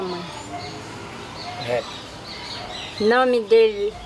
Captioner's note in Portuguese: pássaros cantando